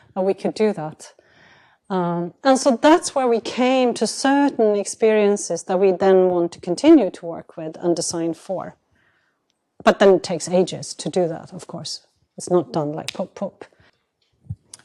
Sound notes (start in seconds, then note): none